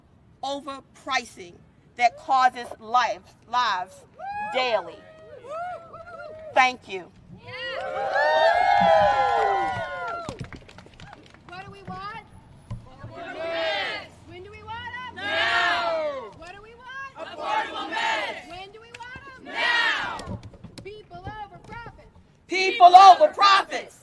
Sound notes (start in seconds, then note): 12.0 cheering and applause